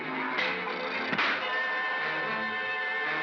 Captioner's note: Bogeymen screaming; darts cracking; suspenseful music; pop; suspenseful music